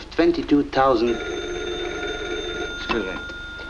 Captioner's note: phone rings